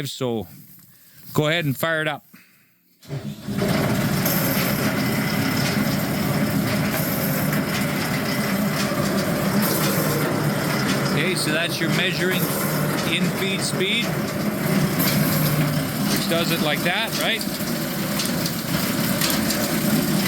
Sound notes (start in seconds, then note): 3.9 drill whirring